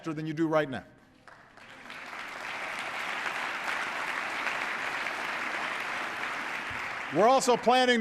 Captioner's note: applause